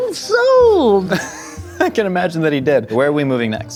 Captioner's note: laughing